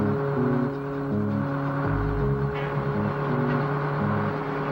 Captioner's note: engine sputters and starts; truck engine whirring